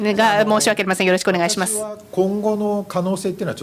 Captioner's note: speaking japanese